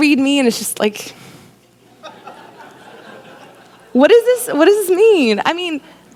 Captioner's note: laughter